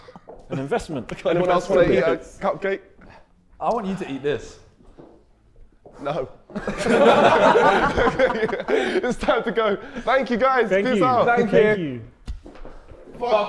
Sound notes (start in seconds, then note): 6.5 Sidemen laughing